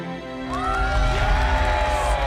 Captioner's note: crowd clapping and cheering